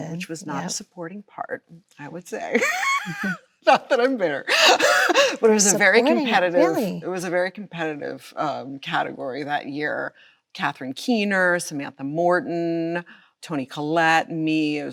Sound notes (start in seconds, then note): 2.5 Chloe laughs